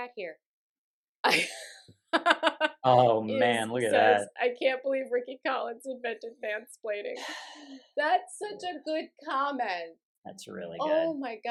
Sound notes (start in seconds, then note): 2.1 laughter; 7.2 sighs